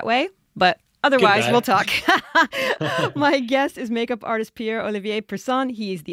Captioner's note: laughs